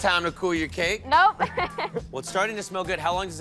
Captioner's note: chuckles